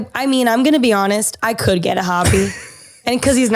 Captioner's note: laughs